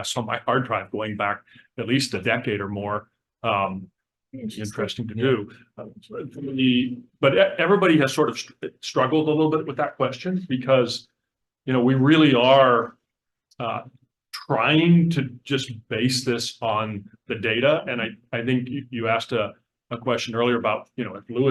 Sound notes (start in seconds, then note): none